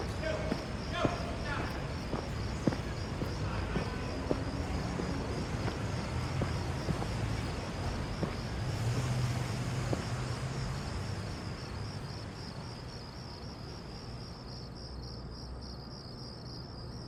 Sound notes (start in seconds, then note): 8.8 crickets chirping; 8.8 traffic humming